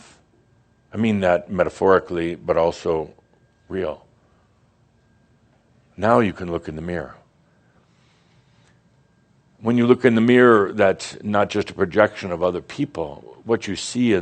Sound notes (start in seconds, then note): none